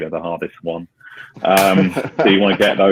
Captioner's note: laughing